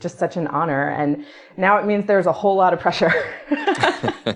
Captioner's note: laughs